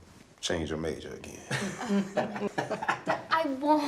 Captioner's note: all chuckling